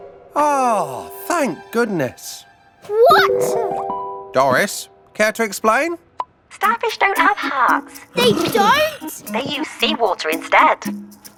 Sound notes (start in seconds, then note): 3.2 Big Lizard exclaims; 8.1 Big Lizard exclaims